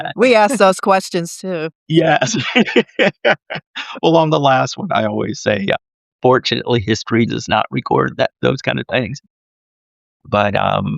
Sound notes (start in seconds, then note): 1.9 laughing